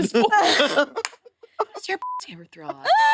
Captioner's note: participants laughing